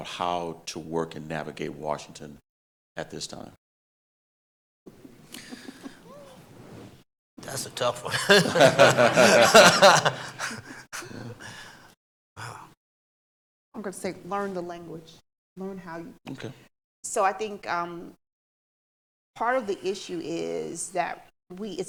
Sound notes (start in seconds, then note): 4.9 panel chuckling; 7.9 audience laughing